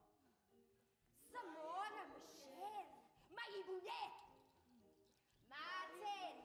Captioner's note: speaks Zulu